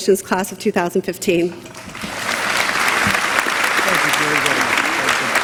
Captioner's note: applause